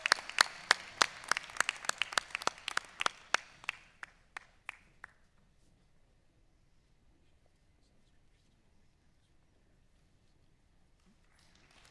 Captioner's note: applause